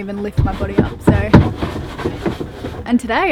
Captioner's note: broom brushes